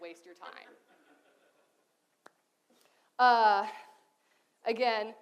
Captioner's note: audience laughs